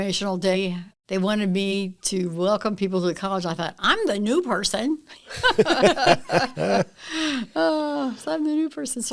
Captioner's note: laughter